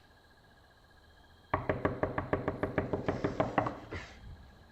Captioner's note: knocking furiously